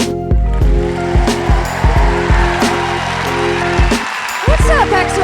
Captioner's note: applause